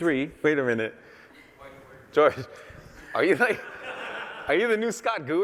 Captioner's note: laughter